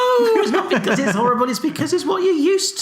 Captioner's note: laughs